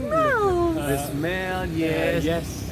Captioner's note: laughing